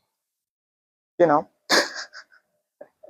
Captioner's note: laughs